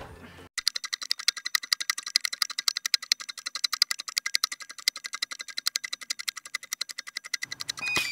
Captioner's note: ticking